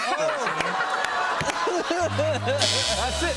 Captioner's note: buzzer